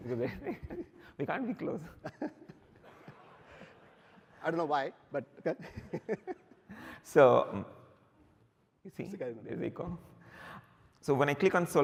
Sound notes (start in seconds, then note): 1.9 laughter